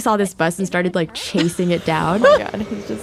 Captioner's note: laughs